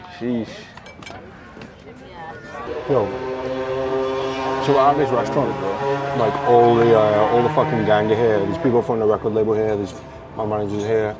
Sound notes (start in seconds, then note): 0.0 sighs; 3.9 engine revving